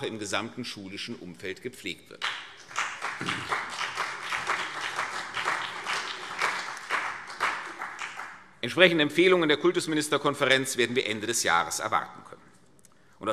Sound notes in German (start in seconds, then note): 2.2 Beifall CDU und BÜNDNIS 90/DIE GRÜNEN